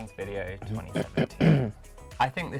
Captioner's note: clearing throat